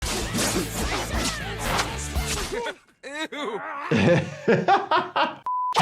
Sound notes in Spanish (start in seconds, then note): 0.0 garras cortando; 4.3 doctor riendo